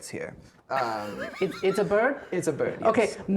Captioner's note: laughing